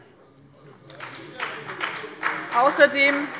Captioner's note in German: Beifall bei dem BÜNDNIS 90/DIE GRÜNEN und der CDU